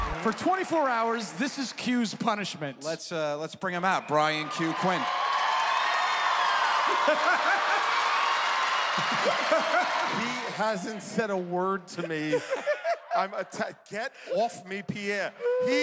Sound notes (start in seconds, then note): 5.4 cheers and applause; 6.9 laughter